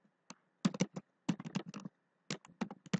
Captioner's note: typing